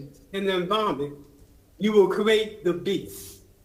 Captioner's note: ~distortion~